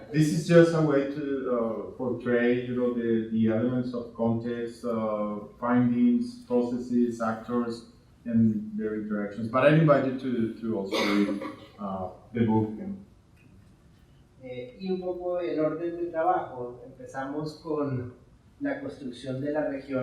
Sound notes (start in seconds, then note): 10.8 coughing drowns out speaking; 14.6 speaking in Spanish